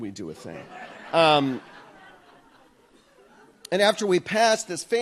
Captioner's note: audience laughs